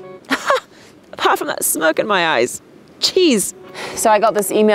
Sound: laughs

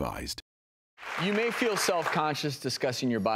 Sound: audience clapping

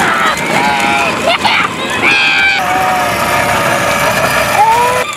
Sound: children laughing

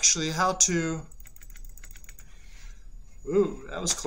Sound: rapid mouse clicking

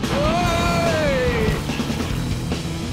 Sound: cheers

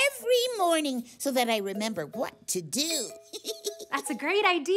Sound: giggles

